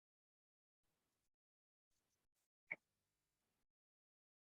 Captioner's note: silence